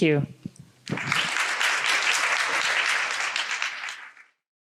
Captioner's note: audience clapping